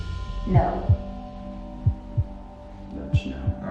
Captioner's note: heartbeat